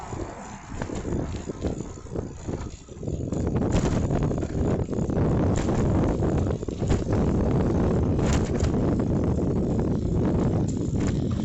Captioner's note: bike gears and wind